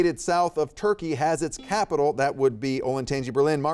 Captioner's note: buzzer beeping